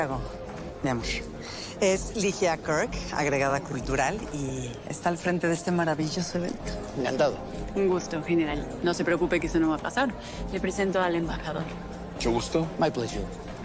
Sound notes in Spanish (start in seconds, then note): none